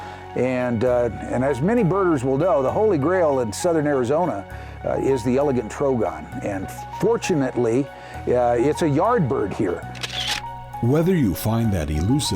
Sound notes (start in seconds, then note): 9.9 sound of camera clicking